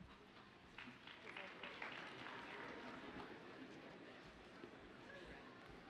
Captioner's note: audience applauds faintly